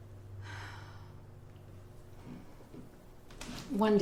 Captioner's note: sighs